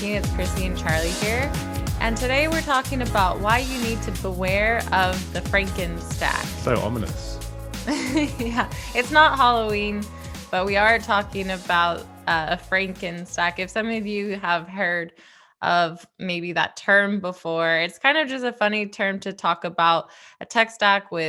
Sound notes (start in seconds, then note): 7.9 chuckling